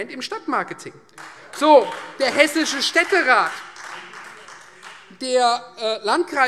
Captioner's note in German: Beifall Freie Demokraten